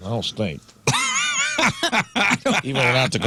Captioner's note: laughing